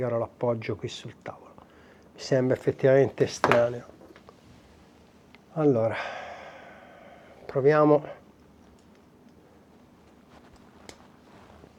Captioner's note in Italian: sospiri